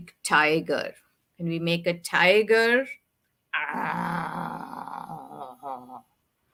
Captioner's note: mimics growling